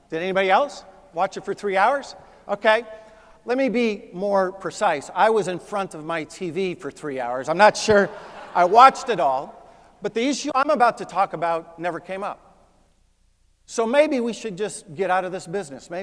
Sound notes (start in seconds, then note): 7.8 laugh